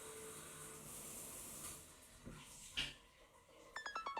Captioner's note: water running